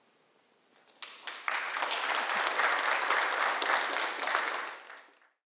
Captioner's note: applause